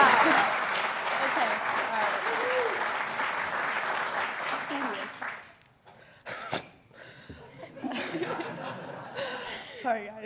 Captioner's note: applause